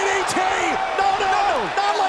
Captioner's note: crowd chatter